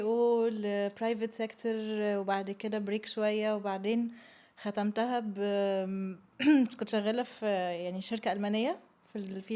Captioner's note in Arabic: تنحنُح